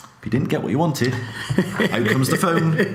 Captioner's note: laughs